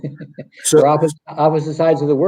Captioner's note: chuckles